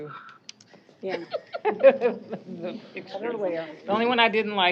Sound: chuckling

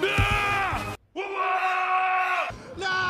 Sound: yelling; shouts

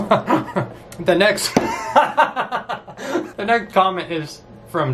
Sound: laughs; laughs

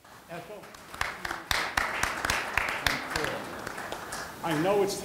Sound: audience applauding

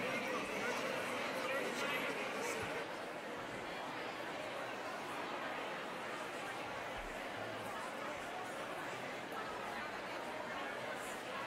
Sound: crowd murmuring

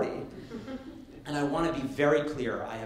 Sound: light laughter

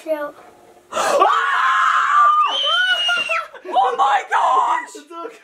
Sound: all screaming

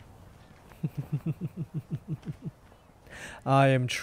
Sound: evil laughter

